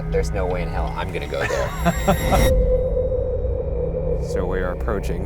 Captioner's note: laughing